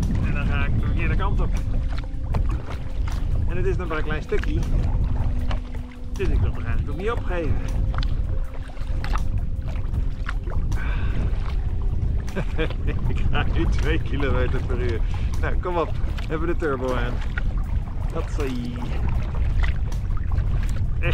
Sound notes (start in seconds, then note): 12.3 laughs